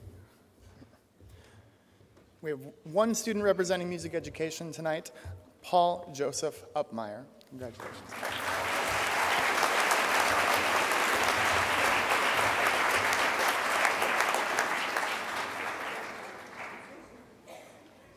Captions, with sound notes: - We have one student representing Music Education tonight, Paul Joseph Upmeyer. Congratulations. (crowd applause)